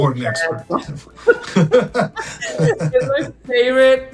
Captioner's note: both laughing